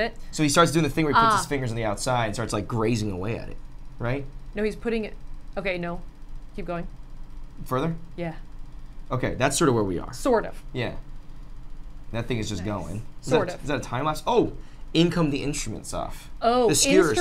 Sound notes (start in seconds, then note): none